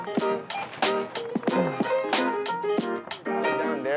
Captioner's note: register beeping